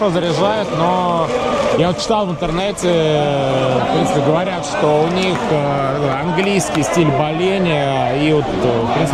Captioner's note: english style of cheering